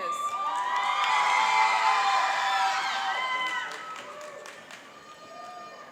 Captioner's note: cheering and applauding